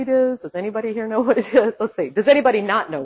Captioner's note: laughs